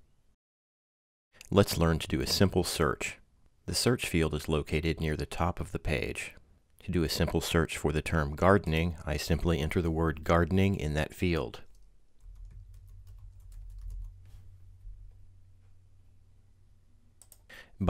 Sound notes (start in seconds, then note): 11.3 pause; 12.2 typing; 13.9 clicking